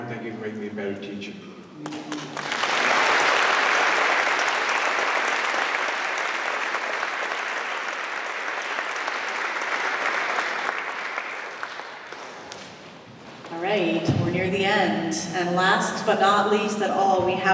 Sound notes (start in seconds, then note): 1.9 applause